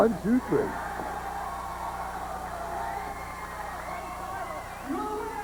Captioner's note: crowd cheering